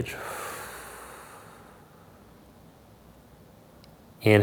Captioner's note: exhales softly